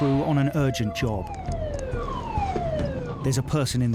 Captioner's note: siren wailing